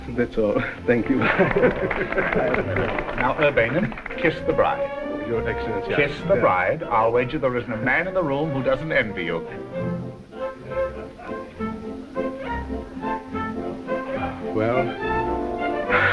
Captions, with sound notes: That is all, thank you. (crowd clapping) - Now Urbenin, kiss the bride. - Your excellency. - Kiss the bride. I'll wager there isn't a man in the room who doesn't envy you. - Well, I don't know.